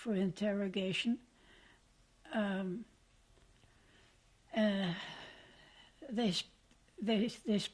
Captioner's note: pauses for 6 seconds